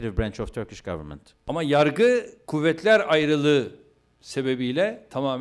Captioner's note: non-english speech